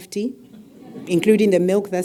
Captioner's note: laugh